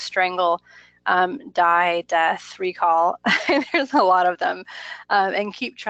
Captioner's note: laughs